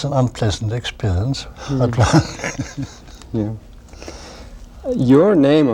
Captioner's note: laughter